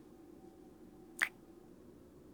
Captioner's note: kiss